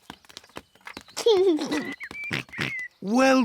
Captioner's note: giggles